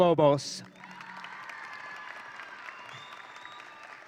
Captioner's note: audience cheering